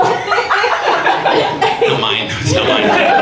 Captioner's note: audience laughs